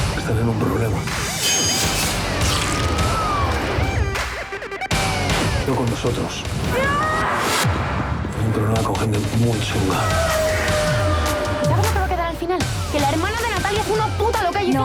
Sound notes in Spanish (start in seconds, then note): 6.8 grita